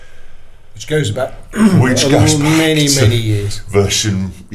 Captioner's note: clears throat